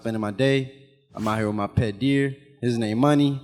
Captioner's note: animation whooshes